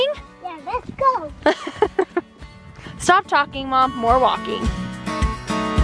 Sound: laughs; upbeat music

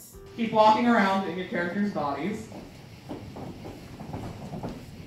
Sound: various shoes walking on a hard floor

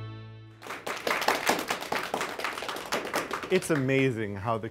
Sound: crowd clapping

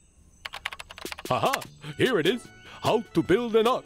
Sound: typing

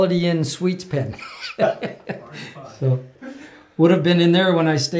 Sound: laughs

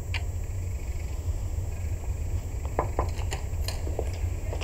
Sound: knock on door

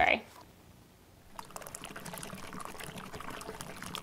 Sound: liquid pouring

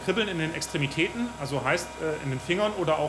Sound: none

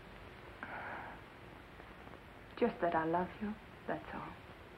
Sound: soft sigh

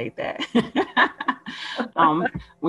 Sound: laughing

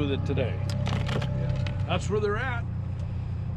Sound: boat engine running

